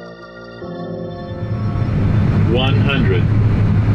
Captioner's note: upbeat music; engine roars